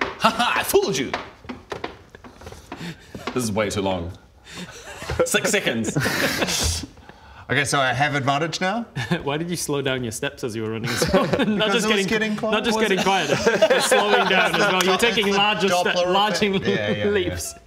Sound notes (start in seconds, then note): 0.7 stomp stomp tiptap; 0.7 stomp stomp stomp; 3.1 tap; 4.0 tip tap